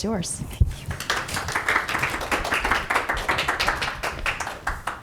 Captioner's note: crowd clapping